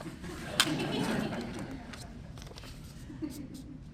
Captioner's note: laughter